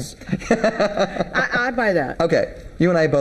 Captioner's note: laughing